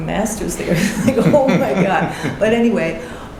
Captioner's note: laughing